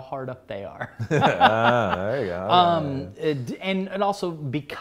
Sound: laughs

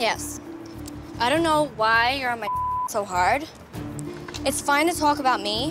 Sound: beep

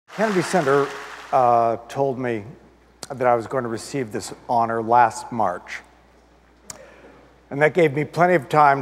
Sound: applause

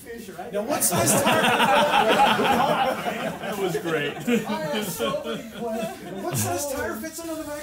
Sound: laughter

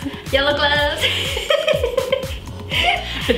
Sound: giggles

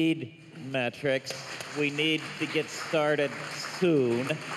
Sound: applause

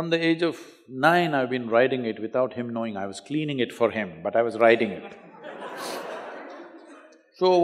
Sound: laughter

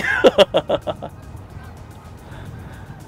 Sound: chuckles

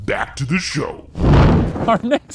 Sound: smoke whooshing

